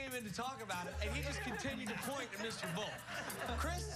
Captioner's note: laughter